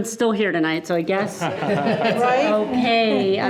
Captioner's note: group laughing